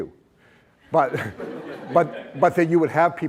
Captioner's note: laughter